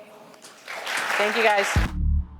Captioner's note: applause